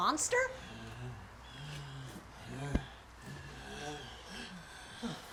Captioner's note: zombie walter wheezing